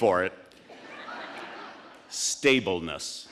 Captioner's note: audience laughing